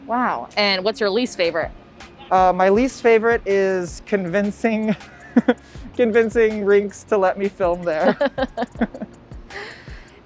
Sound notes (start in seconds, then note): 5.1 laughs; 8.0 both laugh